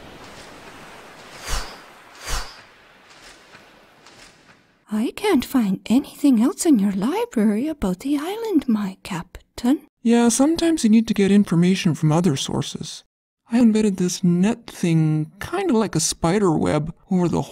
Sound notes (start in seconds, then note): 0.0 wind whooshes